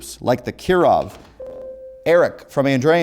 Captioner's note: ringing